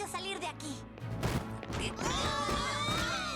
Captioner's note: crashing; shouts